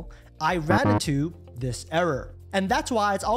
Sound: alarm beeping

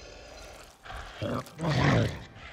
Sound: wheezes

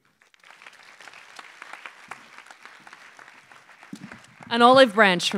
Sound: applause

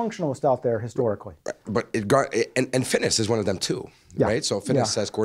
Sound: voiceover

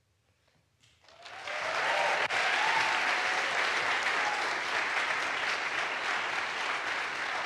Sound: audience applauds; audience cheers

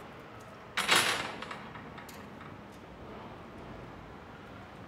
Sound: fence gate clanging

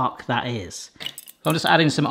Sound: glass tinkling

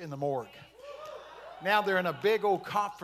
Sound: congregation shouting

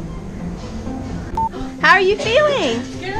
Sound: pleasant music; beep

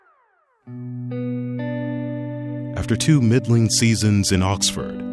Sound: rock music; voiceover

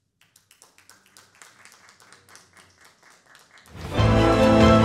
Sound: clapping

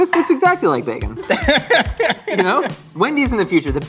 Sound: laughs

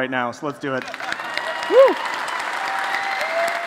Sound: applause

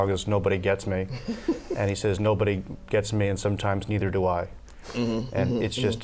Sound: laughter

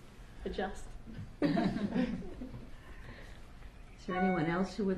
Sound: laughter

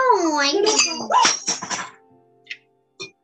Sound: clattering noise as something falls

